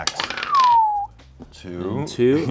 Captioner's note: whistles